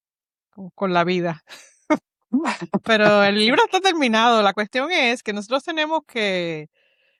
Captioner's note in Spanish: risas